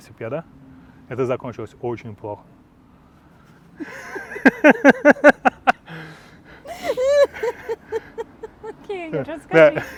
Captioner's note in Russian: оба смеются